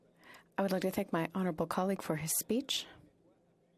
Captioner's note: speaking French